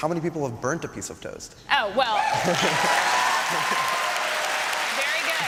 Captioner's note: applause and cheering